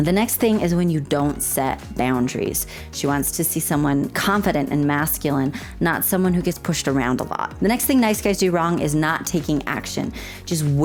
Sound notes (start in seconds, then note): none